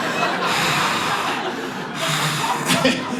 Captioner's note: audience laughs